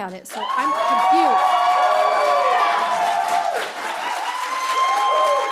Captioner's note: cheers, applause